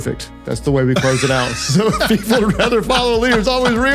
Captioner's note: laughter